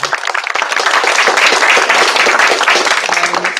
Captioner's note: applause